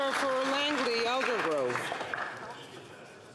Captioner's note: some Applause